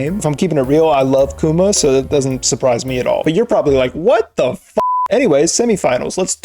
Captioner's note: beep